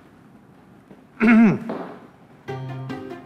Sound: clears throat

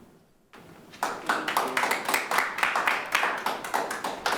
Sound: clapping

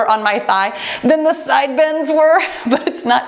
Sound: laughs

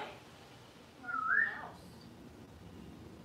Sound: whistling

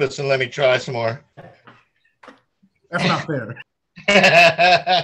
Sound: laughter

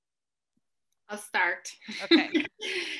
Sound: laughs

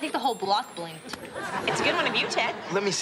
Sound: audience laughing

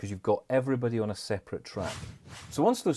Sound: screen whooshing

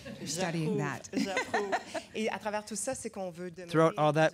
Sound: laughter

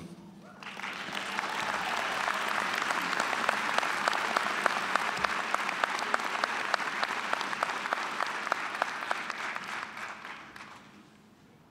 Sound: applause

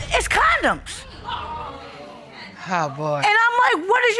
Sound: audience exclaim

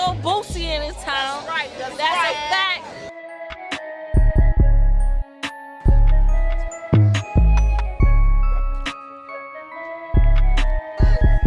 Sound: chatter

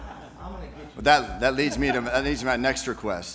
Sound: laughter

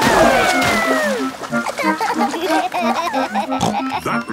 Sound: giggling; snorts

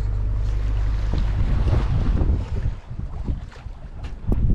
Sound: wind blowing; calm waves flowing

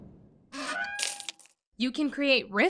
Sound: metal door creaks

